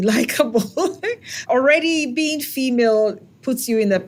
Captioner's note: laugh